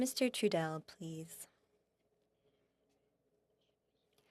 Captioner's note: speaking French